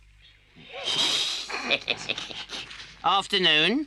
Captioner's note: weasels snicker